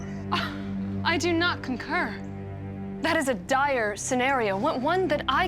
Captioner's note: scoffs